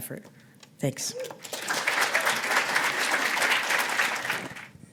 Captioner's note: applause